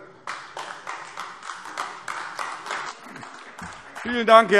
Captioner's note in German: Beifall AfD